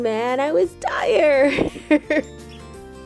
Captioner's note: laughs